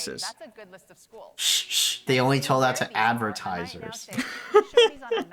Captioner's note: shushing; laughs